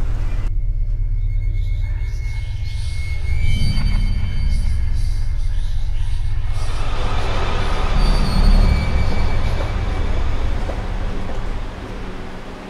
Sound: ghostly whispering

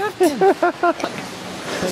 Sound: laughter

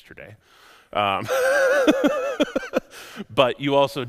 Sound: laughs

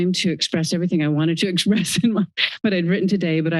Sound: laughs

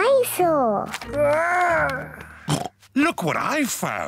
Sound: oinks

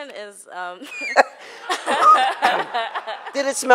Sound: laughing

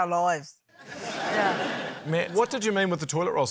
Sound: laughter

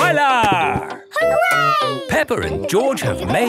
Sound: laughing

